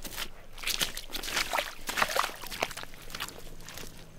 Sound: splashing

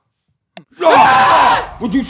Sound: screams

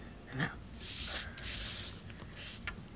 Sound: paper rustling

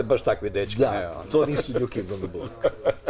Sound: laughs

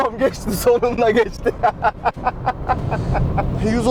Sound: laughs

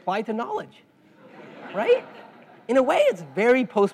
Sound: laugh

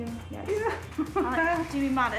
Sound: clerk chuckling

